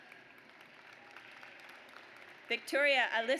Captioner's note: audience applauds